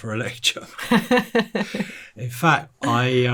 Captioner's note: interviewer laughing